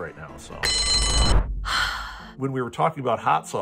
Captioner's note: bell rings